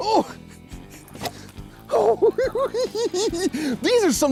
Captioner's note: giggles